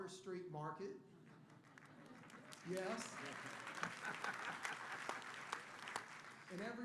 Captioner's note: applause; laughter